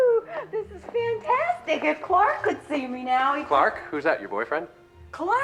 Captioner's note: laughing